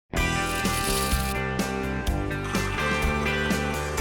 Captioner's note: lively music; coffee beans rattling